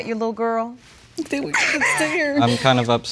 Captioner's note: whimpers